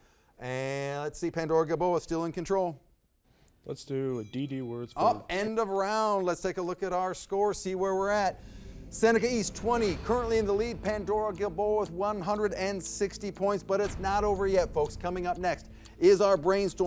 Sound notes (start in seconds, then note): 4.1 bell dings